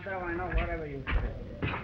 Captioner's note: Pablo speaking in foreign language